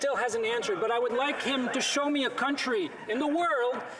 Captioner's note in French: voix de l'interprète